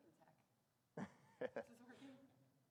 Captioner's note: laughs